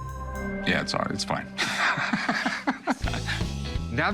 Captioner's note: laughs